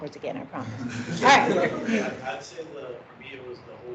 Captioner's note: laughing